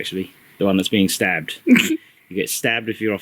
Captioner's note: surprised chuckle